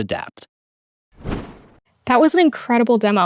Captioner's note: air whooshes